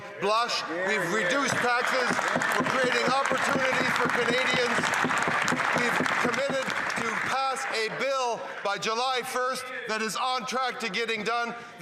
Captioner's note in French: voix de l'interprète